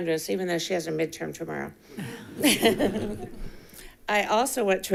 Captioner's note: chuckles